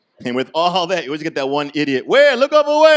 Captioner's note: yelling